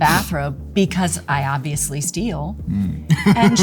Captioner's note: Liam laughing